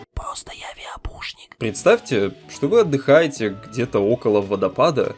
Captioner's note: in a whisper